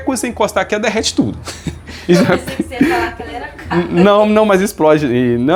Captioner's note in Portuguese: risadas